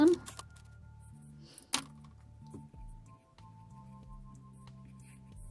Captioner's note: gasp